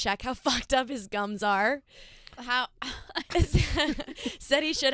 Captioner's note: laughing